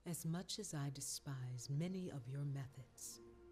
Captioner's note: none